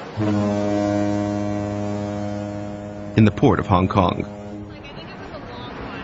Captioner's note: boat horn